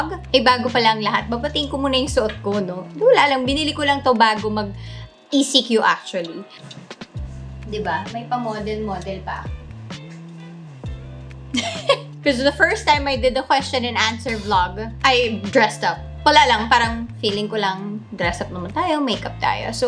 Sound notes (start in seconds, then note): 11.6 laugh